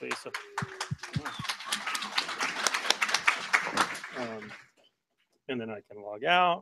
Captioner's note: applause